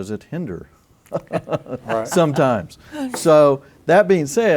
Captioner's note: laughter